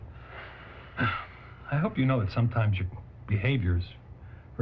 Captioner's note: sighs